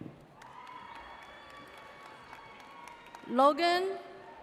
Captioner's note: audience cheers